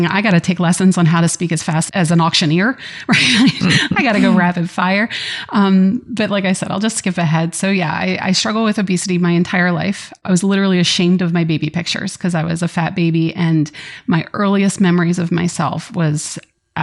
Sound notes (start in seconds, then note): 3.1 laughter